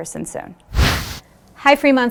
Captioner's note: wind whooshes